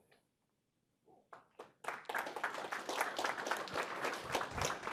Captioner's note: applause